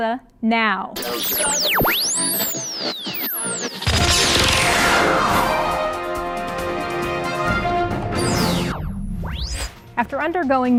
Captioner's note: sound Effects